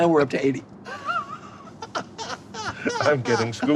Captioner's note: laughing